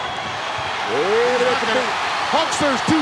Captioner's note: Hillbilly mumbling